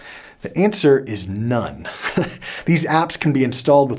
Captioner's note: giggles